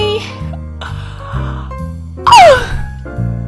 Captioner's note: yawn